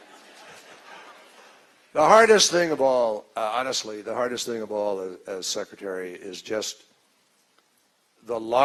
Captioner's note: laughter